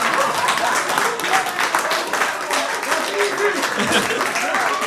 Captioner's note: audience laughs